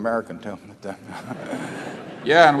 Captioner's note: laughter